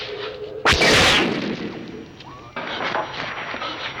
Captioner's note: zapping